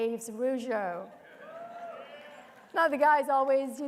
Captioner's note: attendees cheering